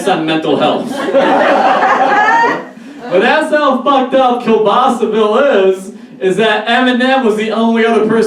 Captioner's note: audience Laugh